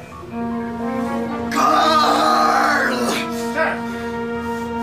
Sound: screams

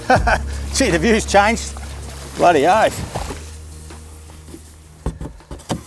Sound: chuckles

